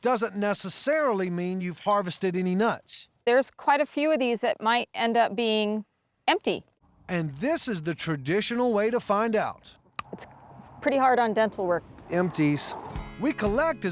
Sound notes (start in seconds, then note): 10.0 crunch